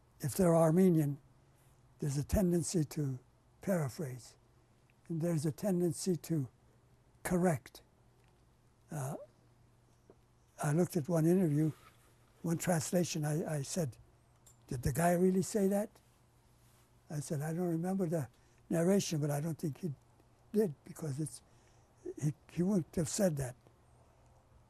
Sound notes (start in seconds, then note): 7.5 pauses for 3 seconds